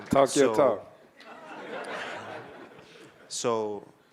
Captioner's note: audience laughing